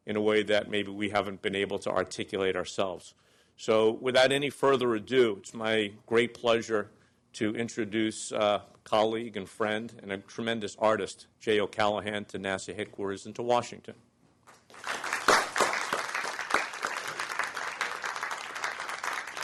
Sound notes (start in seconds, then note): 14.6 applause